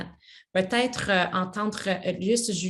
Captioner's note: speaks French